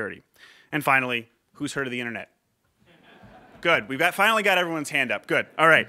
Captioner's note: laughter